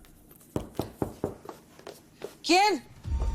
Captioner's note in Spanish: Toques en la puerta